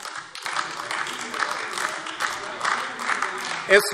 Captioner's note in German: Beifall AfD